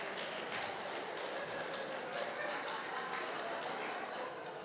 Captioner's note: applause